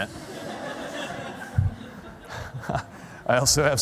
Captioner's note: laughter